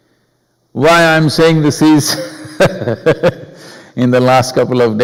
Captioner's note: laughs